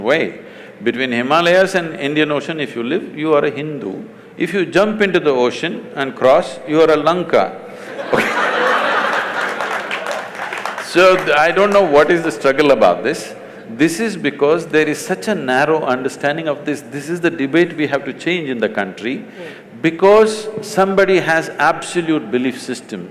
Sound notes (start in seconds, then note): 7.8 laughter/Applause